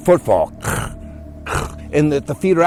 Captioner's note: makes crunching sounds